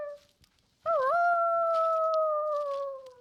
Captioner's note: howl